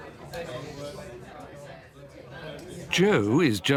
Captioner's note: people chattering